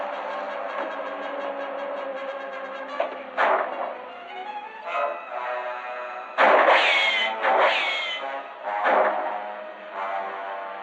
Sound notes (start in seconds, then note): 3.4 gunshot; 6.4 gunshots